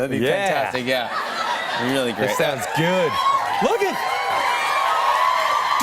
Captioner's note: cheers and applause